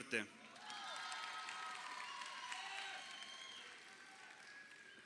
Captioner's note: crowd cheering